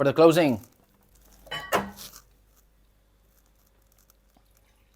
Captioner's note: dishes clanking